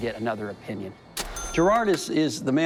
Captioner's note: cash register bell